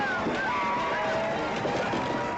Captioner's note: men yelling